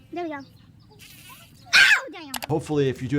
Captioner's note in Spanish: abeja zumba